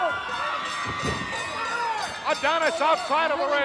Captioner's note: bell ringing